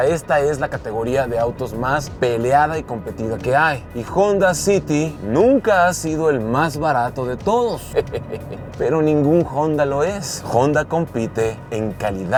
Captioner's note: laugh